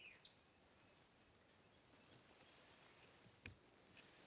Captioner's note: birds chirping